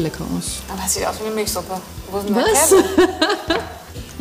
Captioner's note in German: lacht